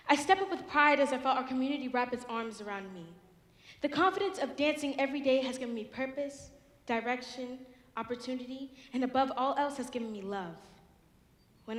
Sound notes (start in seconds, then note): none